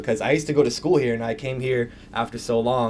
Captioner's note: none